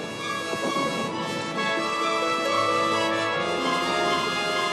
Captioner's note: heavy artillery booming